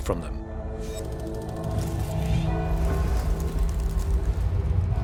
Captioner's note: bells toll; sound of flapping wings